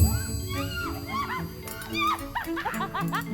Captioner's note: girls giggling